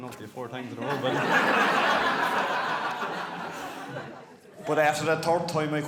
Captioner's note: guests laughing